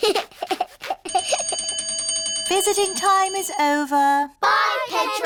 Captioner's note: giggles; bell rings